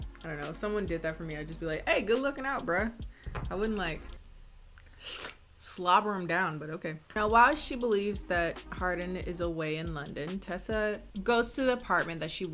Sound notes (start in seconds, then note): 4.8 slurps